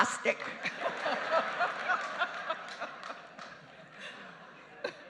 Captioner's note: laughing